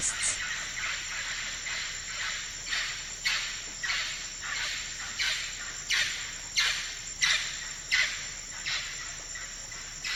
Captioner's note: forest sounds